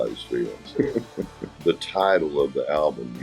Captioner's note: laughs